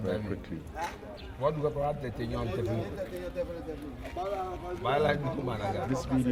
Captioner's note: non-english speech